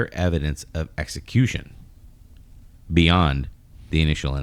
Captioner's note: uh